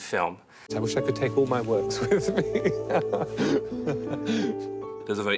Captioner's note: laughs